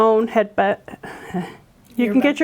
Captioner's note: laughs